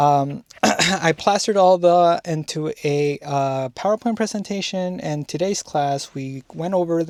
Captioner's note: clears throat